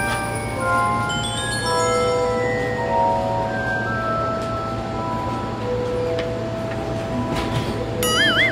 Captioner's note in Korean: 신비로운 열차 도착음